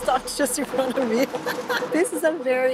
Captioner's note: laughs